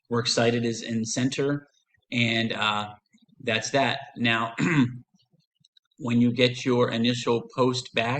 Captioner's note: clears throat